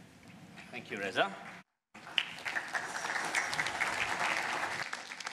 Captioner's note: applause